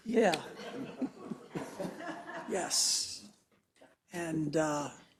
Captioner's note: laugh